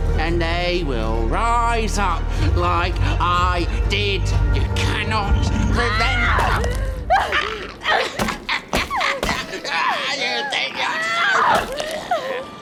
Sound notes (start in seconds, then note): 5.9 Esther yells; 7.0 Fungo laughs